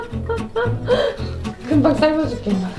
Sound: laugh; inhale

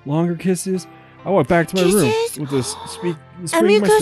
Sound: gasps

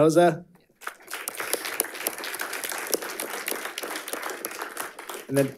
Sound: audience applauding

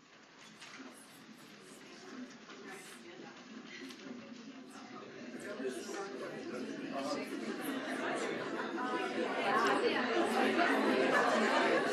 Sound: several people are talking and laughing in the crowd

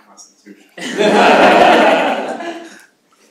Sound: laughter

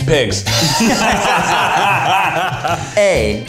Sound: all laughing

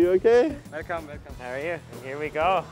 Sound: speaking foreign language

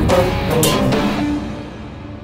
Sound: thuds

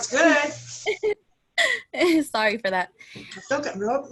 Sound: laughter

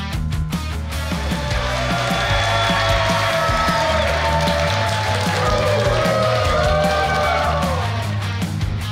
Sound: cheering & Clapping

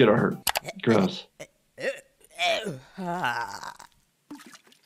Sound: Eric gagging

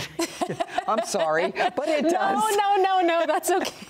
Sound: both laughing

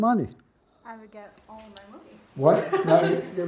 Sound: laughing

